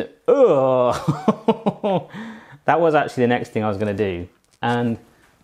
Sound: laughs

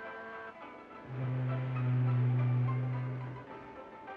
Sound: fog horn in distance

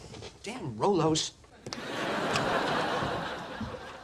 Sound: audience laughing

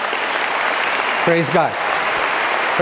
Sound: audience clapping

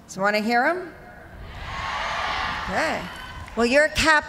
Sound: cheers and applause

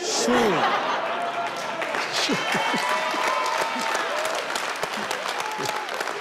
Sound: all laughing and clapping

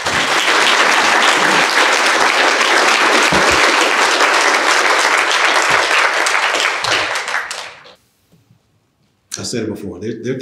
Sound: applause

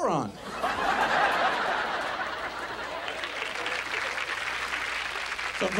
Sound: audience laughs and applauds

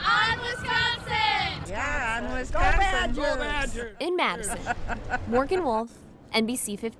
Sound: laughs

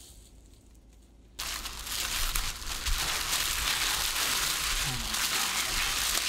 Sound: plastic crackling

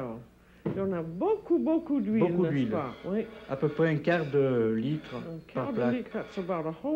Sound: speaking french

